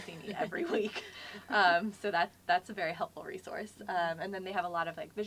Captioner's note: laugh